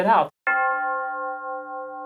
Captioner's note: bell